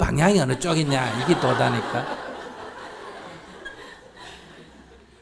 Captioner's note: audience Laughter